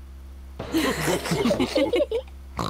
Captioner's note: all laughing; oinks